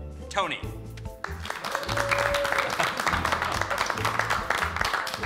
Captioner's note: group applauding